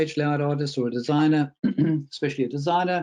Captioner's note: clears throat